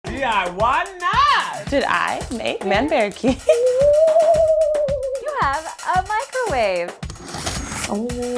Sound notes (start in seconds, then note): 2.8 laughs; 7.1 electric drill